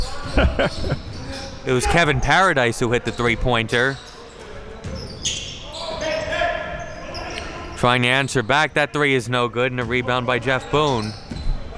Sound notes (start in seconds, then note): 0.1 laughing; 5.0 players yelling